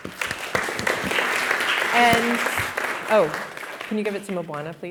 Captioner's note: audience applauds